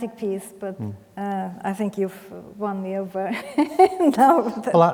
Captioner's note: laughs